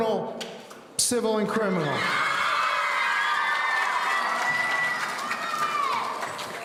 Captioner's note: audience cheering